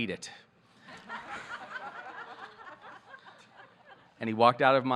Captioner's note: audience laughing